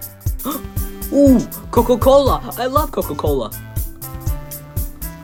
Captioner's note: gasp